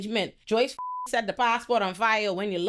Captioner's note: beep